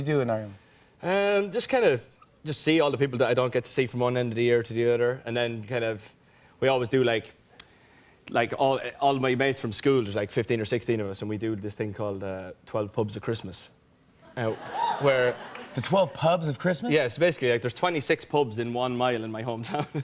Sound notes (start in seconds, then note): 14.3 laughter; 19.6 laughter